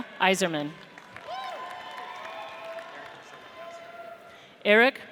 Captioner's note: audience cheers